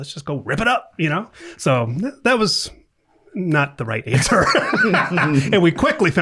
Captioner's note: laughing